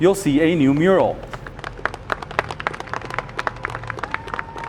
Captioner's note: people clap